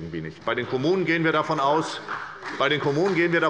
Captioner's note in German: Beifall bei der SPD